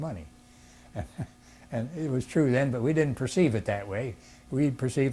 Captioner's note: laughs